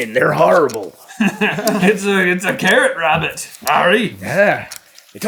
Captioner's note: laughter